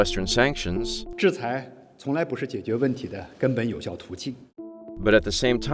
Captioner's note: speaking in foreign language